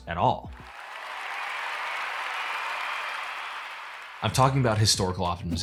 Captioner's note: cheering and applause